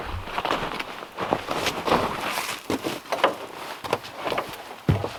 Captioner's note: footsteps crunching